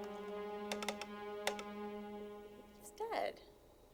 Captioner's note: phone clicking